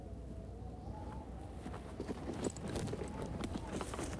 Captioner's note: wind howling